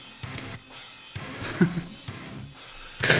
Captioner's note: laughs